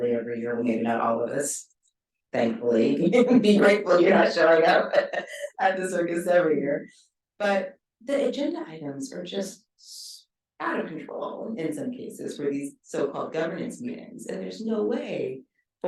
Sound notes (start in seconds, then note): 2.9 chuckles; 3.4 laughing